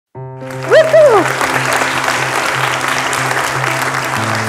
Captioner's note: audience applauding